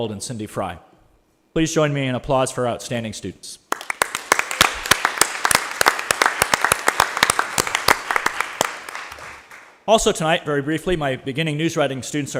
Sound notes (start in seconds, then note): 3.7 attendees applauding